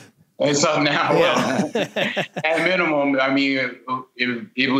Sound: laughter

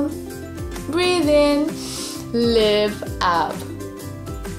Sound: breathes in deeply

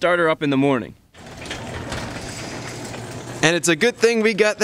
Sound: garage door motor whirring

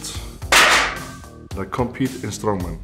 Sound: bang

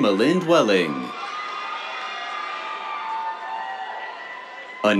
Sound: cheers, applause

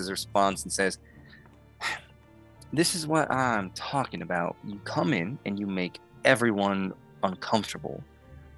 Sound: huffs

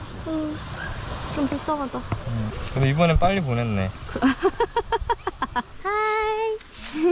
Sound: laughing

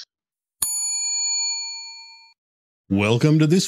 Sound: bell chimes

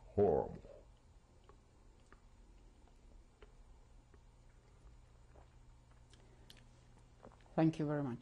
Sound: pauses for 7 seconds

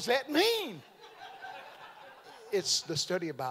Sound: audience laughing

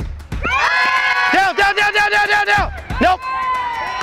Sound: crowd shouting

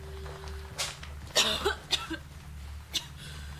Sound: coughs

